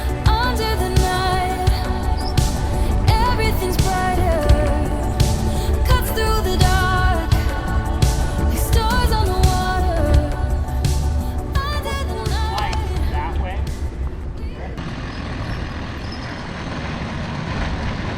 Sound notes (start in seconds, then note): 14.9 bike rumbling